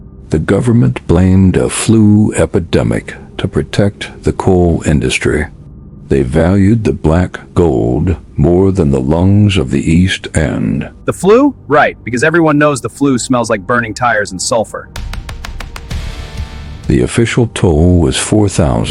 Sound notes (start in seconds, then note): 10.2 sarcastic Commentary